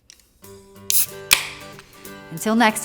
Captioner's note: popping beer